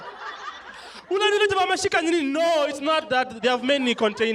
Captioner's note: non-english speech